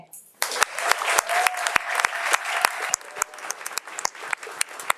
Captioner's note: audience applauding